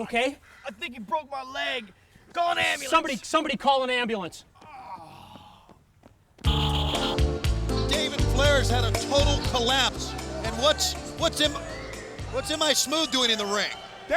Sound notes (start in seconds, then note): 4.9 mailman groaning; 6.5 smooth R&B music